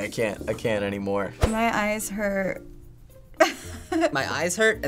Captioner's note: laughing